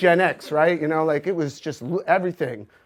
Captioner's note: audience laughs